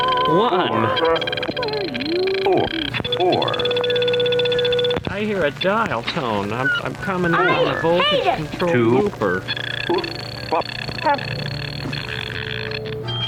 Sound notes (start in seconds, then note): 3.2 Booper beeps